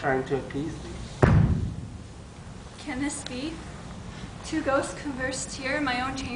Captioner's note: stomp